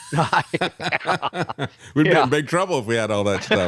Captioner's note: both Laughing